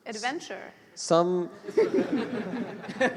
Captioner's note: laughter